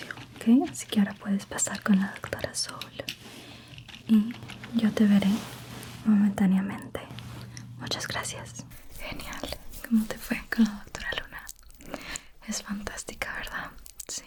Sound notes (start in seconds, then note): none